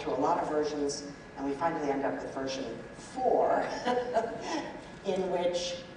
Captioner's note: laughs